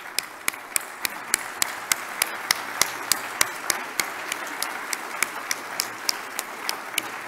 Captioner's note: applause